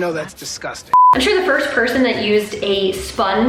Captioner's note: beeping